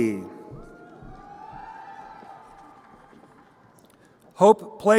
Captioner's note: crowd cheering